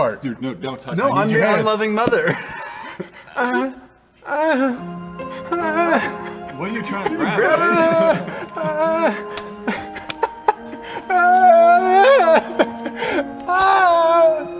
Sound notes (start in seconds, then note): 3.1 crying noises; 8.3 makes more crying noises